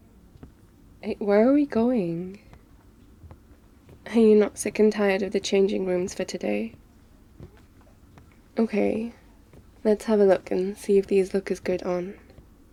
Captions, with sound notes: where are we going? *footsteps* are you not sick and tired of the changing rooms for today? ok, let's have a look and see if these look as good on